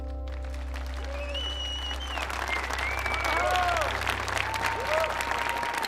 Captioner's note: audience applauding and cheering